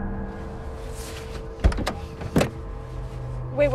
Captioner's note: door unlatching